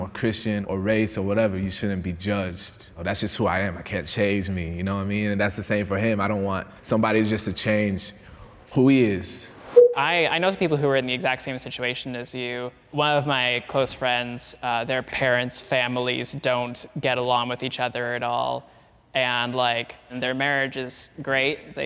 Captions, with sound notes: or Christian or race or whatever, you shouldn't be judged. That's just who I am, I can't change me. You know what I mean? And that's the same for him. I don't want somebody just to change who he is. (transition whooshes) (transition bleeps) - I notice people who are in the exact same situation as you. One of my close friends, their parents, families don't get along with each other at all. And, like, their marriage is great.